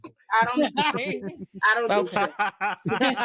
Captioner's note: laughing